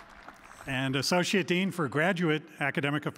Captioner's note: applause